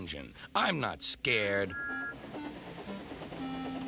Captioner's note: toots